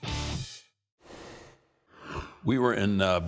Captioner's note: rushing sound plays